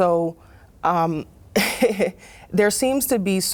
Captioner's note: laughs